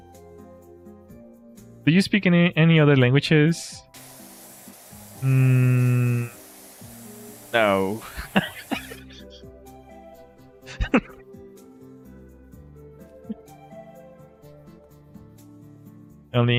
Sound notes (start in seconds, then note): 8.0 laughter